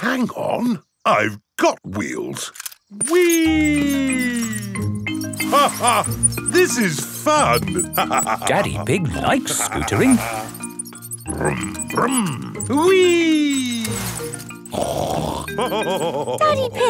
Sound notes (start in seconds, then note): 5.9 laughs; 15.1 snorts and laughs